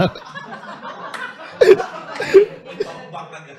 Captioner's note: laughter